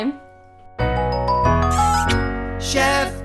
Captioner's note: lively music playing; kiss sound